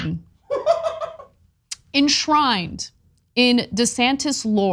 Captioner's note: laugh